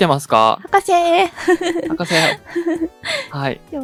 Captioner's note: laughs